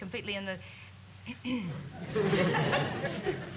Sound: clears throat

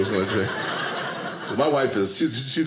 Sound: audience laughing

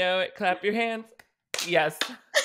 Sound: both clapping hands

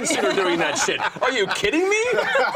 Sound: group laughing

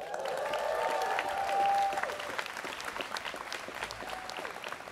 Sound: students cheering

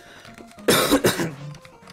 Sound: legit cough

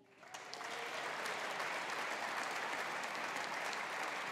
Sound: audience applauding

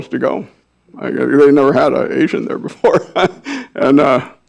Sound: laughs

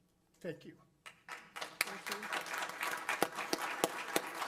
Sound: applause

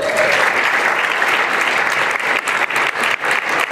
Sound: applause

